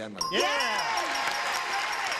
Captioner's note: beeping